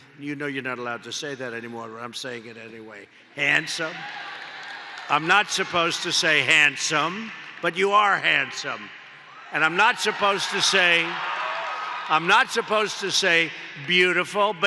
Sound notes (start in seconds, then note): 10.7 applause